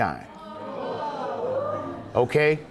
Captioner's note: audience groaning